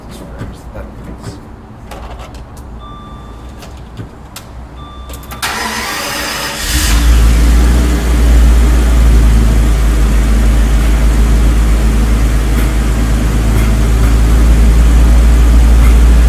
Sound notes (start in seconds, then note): 5.4 engine turns over; 6.7 engine catches, settles into high warmup idle